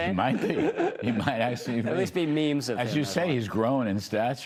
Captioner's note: laughter